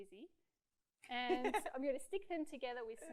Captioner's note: laughs